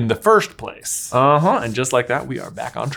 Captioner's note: hands rubbing together